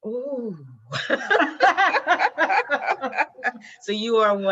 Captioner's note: laughing